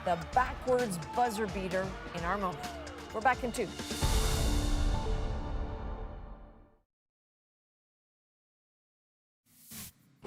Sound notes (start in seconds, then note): 1.6 cheers and Applause